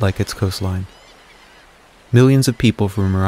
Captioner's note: seagulls caw